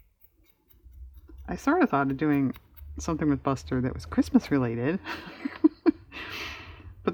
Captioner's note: laughs